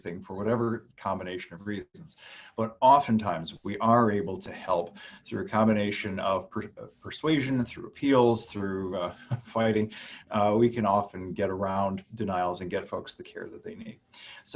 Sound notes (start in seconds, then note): 9.0 chuckling